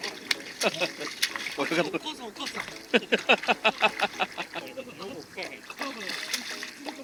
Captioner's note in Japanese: 大笑い